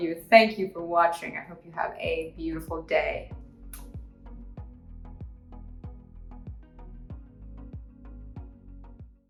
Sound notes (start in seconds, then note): 3.7 blows kiss; 4.8 soft upbeat music